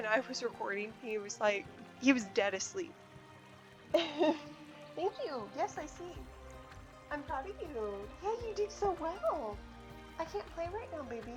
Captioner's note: laughs